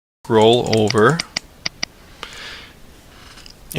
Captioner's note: voiceover